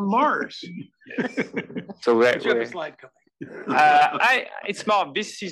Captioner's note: laugh